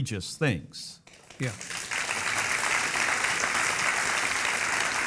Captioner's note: audience clapping